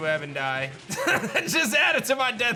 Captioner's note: laughs